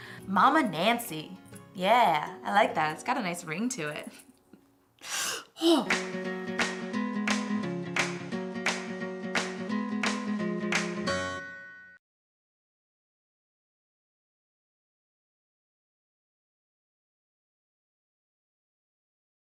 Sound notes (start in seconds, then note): 5.0 inhales rapidly; 5.7 upbeat instrumental music